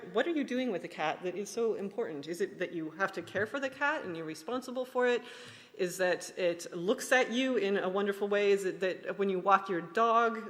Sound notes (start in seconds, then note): none